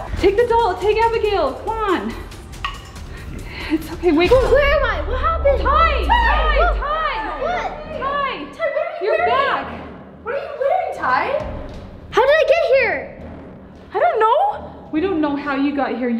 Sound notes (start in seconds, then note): 6.0 all yelling